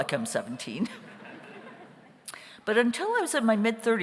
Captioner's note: audience laughs